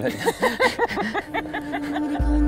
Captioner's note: both laugh